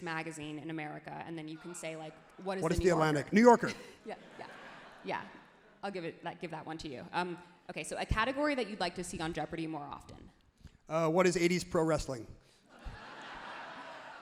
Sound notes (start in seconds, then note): 5.3 crowd and laughs happily; 12.8 crowd laughs happily